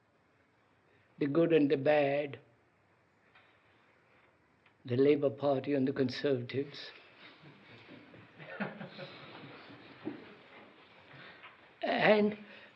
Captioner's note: laughter